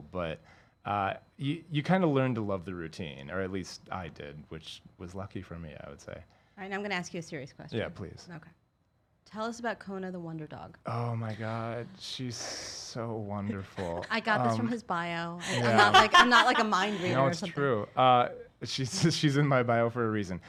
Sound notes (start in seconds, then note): 13.4 laughs